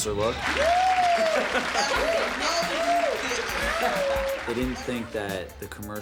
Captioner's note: audience clapping